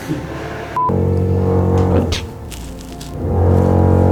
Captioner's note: more construction noise